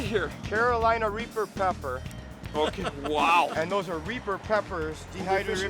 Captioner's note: laughing